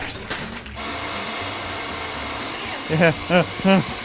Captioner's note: mixer beating